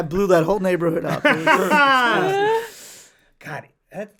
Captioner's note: laughs